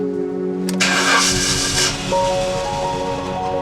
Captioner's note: engine Starting